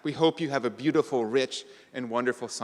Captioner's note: none